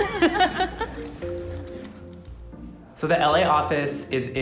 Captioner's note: laughing